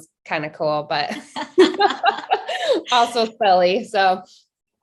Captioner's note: laughing